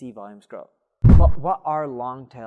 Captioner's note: air whooshing